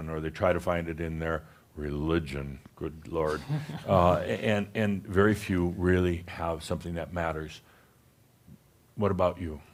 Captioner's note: chuckles